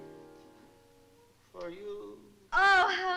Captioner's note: flatly